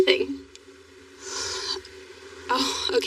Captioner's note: sighs